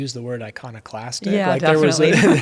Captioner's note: laugh